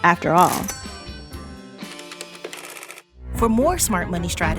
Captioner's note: calculator clicking